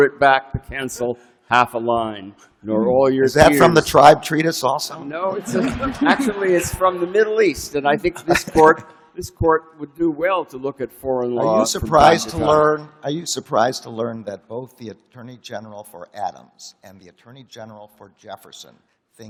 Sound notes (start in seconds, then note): 5.2 laughter